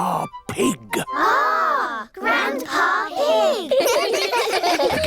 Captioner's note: giggling